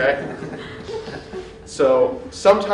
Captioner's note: laughter